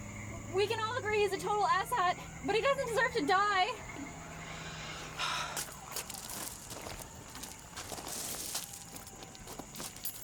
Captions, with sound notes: We can all agree he's a total asshat, but he doesn't deserve to die! *Exasperated Sigh*